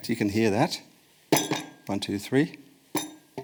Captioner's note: ball bangs